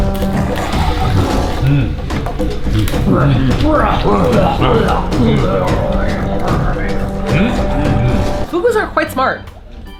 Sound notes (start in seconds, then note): 4.6 roaring noises